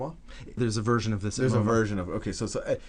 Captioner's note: voiceover